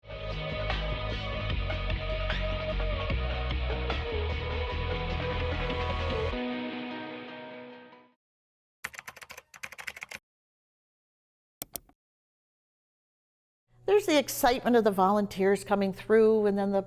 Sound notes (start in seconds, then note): 0.1 energetic music; 8.8 keyboard clicking; 11.6 mouse clicking